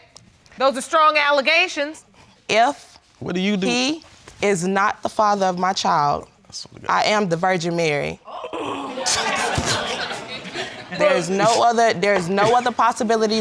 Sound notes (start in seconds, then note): 8.9 audience laughing; 10.8 laughs